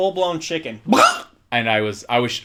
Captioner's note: clucks